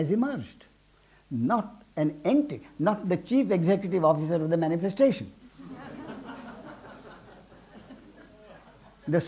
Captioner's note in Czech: smích